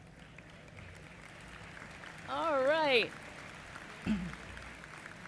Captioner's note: applause